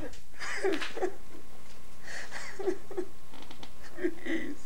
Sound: prisoner cries

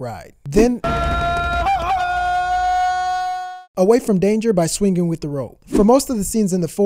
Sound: Tarzan call sound effect

